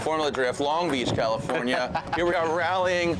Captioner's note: laughs